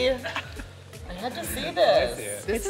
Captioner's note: chuckling